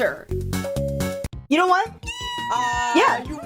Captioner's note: laughing hysterically